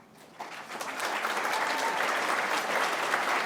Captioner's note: applause